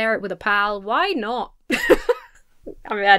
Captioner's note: laughs